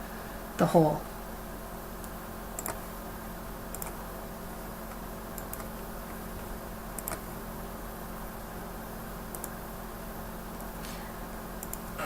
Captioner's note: typing, clicking